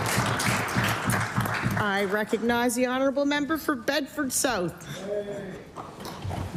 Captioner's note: applause